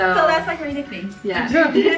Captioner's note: laughs